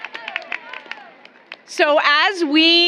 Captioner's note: applause